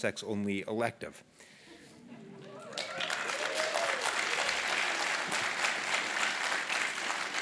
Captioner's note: applause